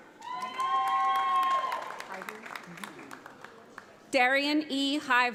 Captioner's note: audience applauds